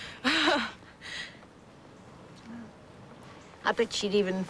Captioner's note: laughs